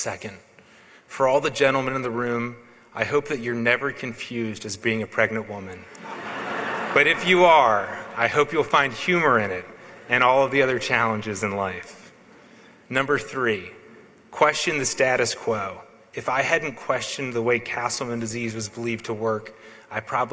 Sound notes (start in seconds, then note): 5.9 laughs